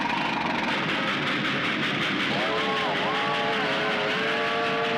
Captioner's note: train chugging